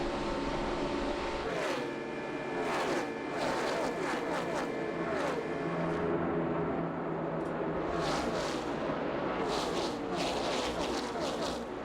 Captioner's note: engines roar